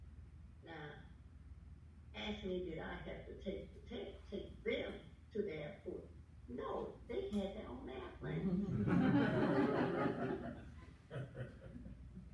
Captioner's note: laughter